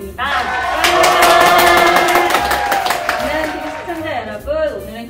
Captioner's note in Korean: 셀프환호 와~~~